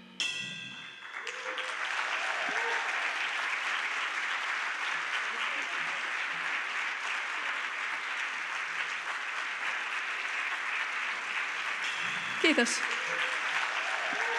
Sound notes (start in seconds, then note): 1.1 applause